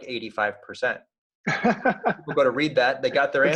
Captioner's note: laughing